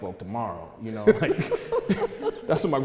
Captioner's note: laughing